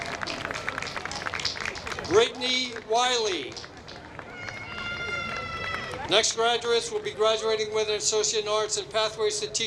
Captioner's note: applause